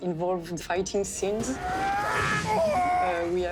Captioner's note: Mario grunting